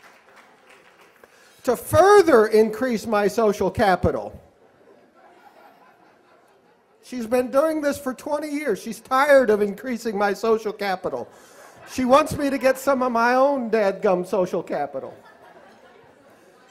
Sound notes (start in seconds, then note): 0.0 applause; 4.7 laughter